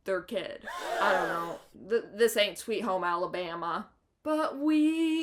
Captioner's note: gasp